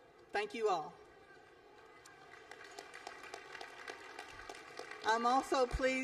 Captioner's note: applause